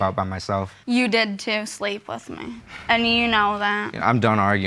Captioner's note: sighs